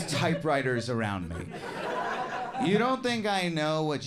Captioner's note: audience laughing